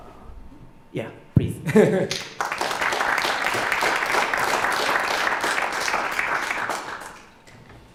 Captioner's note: clapping